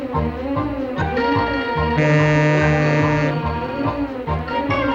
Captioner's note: monorail horn